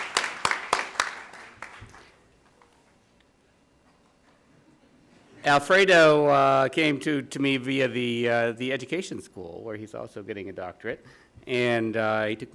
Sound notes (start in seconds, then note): 0.0 applause